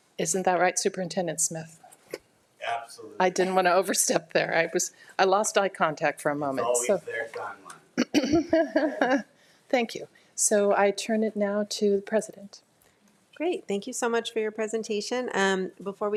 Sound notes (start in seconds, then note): 8.0 laughs